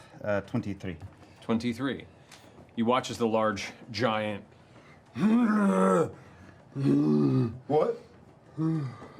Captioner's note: groans; slower groan